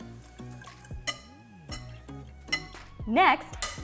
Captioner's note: whisk clanging